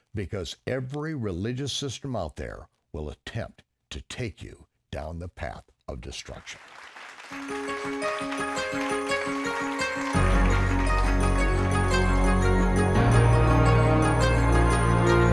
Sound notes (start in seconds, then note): 6.4 clapping; 9.3 orchestral techno music